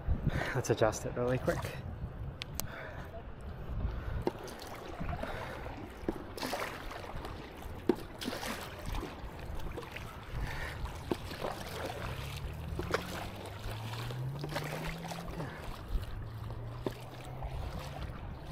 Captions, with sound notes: Let's adjust it really quick. (water splashing)